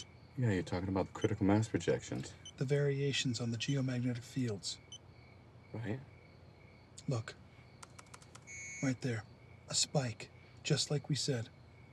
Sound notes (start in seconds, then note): none